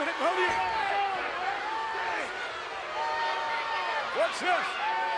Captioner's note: audience clamoring